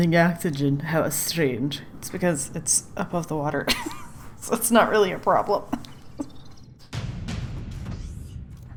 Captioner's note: laughs